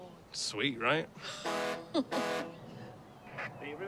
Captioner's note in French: klaxon du navire